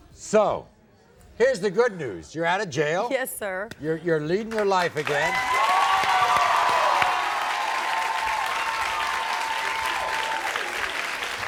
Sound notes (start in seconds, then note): 5.0 cheering